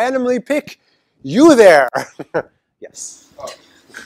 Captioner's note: laugh